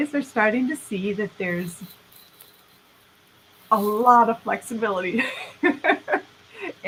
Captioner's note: laughing